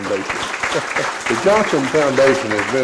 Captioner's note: applause